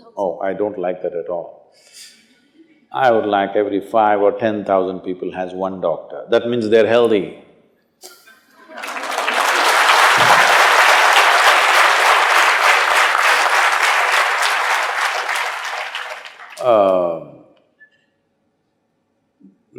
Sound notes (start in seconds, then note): 2.1 few laugh; 10.8 laughter/Applause